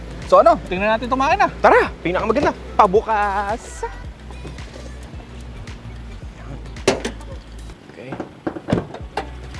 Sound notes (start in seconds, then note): 6.8 hood pops